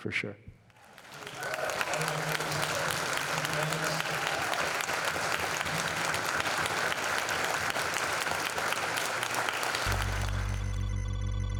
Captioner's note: applause